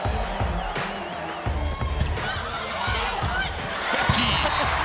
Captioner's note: cheering